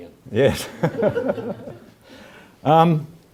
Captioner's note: laugh